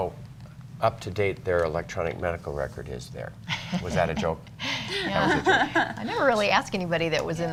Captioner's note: laughter